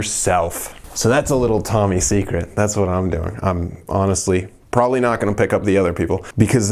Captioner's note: shhh